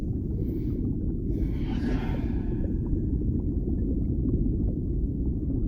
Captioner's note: dragon sighs before settling down to sleep